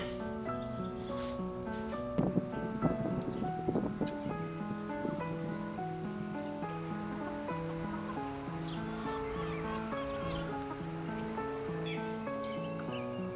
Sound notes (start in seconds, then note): 4.8 wind blows; 8.0 Betsy clucks